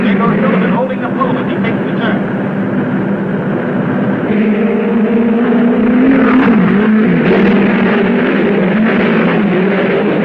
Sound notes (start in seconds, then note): 4.5 cars whirring